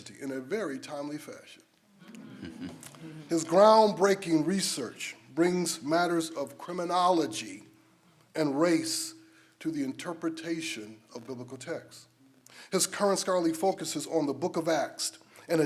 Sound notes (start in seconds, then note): 2.2 laughs